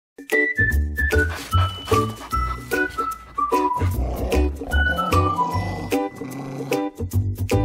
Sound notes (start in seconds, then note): 0.2 cheerful music with whistling; 1.0 dog sniffing and panting; 3.7 dog playfully growling